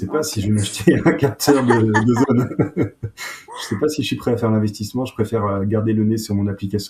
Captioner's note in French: rires